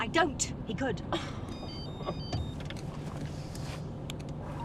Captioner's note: phone ringing